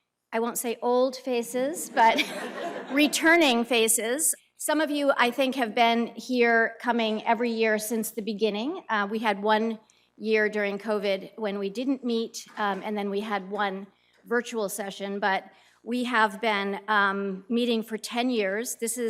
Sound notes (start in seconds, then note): 1.9 laughter